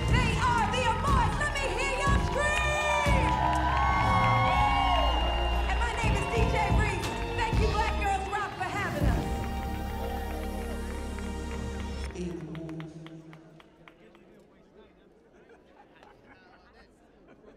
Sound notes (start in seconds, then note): 3.3 audience cheering; 13.9 audience chattering